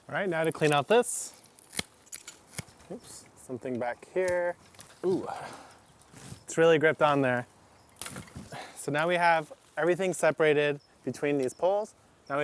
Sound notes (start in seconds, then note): 0.3 trimmers snip